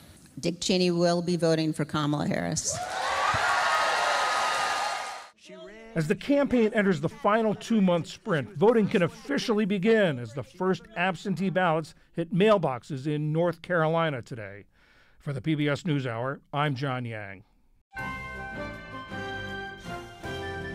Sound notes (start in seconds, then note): 5.9 applause; 5.9 cheering